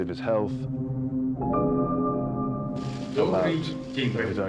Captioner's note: soft dramatic music; person speaks in Russian